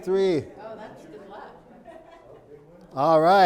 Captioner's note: crowd chattering